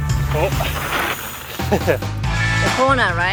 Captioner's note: chuckles